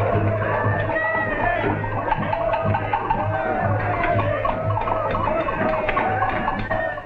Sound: crowd craving

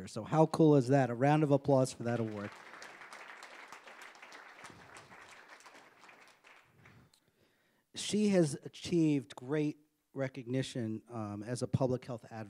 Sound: applause

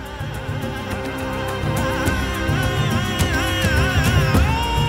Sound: quavering voice

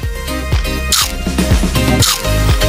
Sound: crunch!

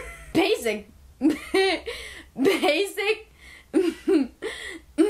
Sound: throat clearing

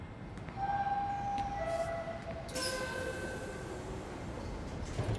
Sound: subway door chime

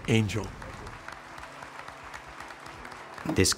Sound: clapping

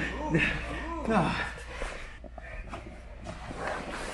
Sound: panting

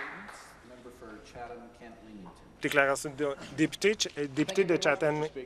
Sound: some Applause

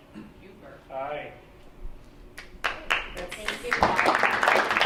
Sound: clapping

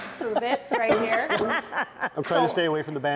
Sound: woman laughs

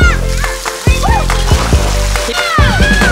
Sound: splash

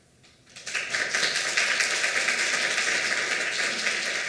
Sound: applause

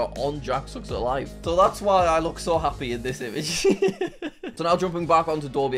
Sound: chuckles

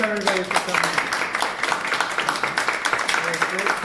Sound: applause

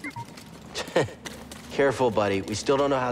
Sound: laughs

